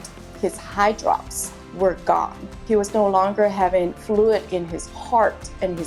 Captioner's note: none